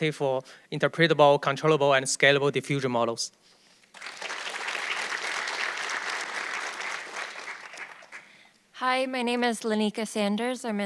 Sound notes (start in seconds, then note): 3.9 audience clapping